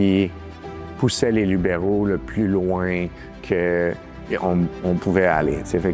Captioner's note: speaking french